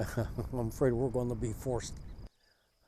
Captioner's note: laughs